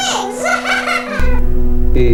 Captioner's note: laughter